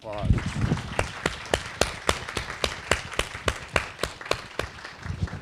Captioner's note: audience applause